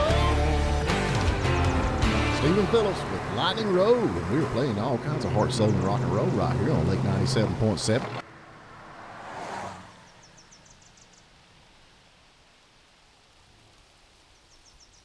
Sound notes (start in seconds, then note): 8.6 outdoor din